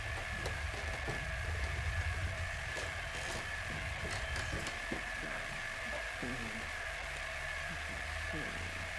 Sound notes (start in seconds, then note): 5.0 whirring static